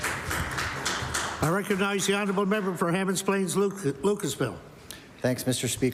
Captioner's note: applause